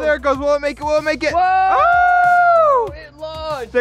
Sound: yelling

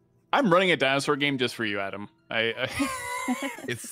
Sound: laughs

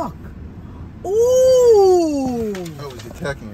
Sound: exaggerates an "oh"

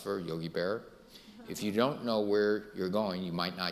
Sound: audience laughing

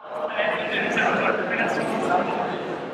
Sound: ambient train station sounds

